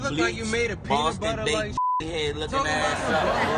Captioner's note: beep